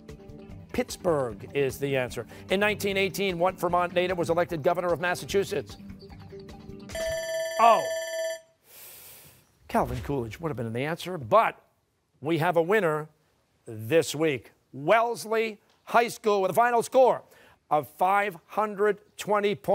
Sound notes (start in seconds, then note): 6.9 bell rings